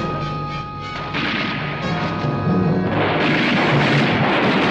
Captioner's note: bullets firing